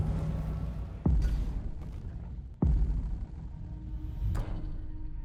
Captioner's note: cinematic boom